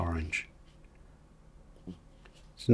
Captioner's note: silence